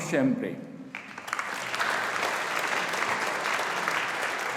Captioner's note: audience applauding